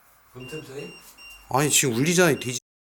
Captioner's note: beeping